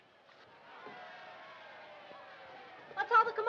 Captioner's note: crowd noise